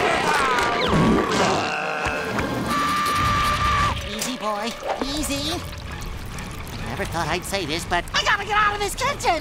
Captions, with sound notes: [screaming] Easy, boy, easy. Never thought I'd say this, but I gotta get out of this kitchen!